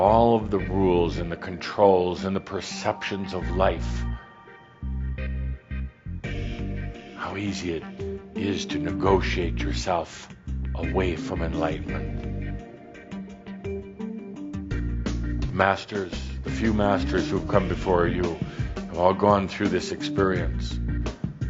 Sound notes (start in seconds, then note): none